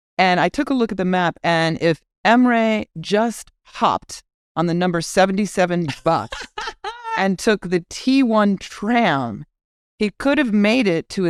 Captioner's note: laugh